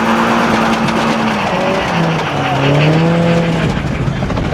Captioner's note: engine revving